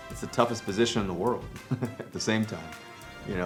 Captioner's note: chuckles